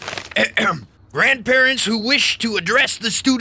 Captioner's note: throat clearing